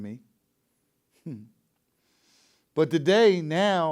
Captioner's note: chuckles